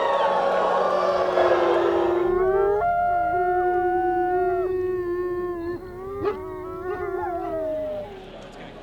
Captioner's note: crowd howls; wolf howls